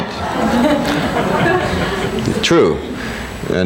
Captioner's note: people laughing